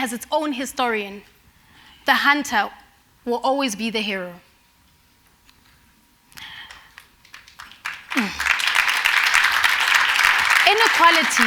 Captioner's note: applause